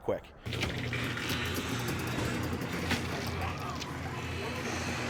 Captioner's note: garage door rattling